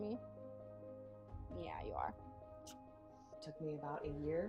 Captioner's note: smooch